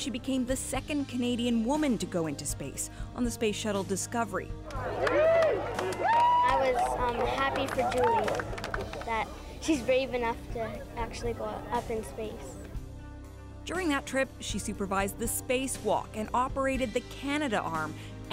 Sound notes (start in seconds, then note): 9.1 cheering; 10.3 applause